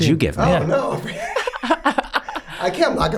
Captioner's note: laughs